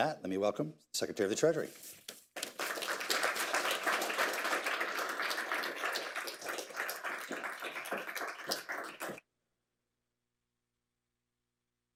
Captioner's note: applause